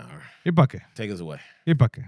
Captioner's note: non-english Speech